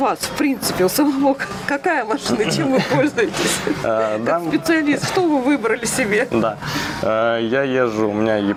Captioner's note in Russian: смех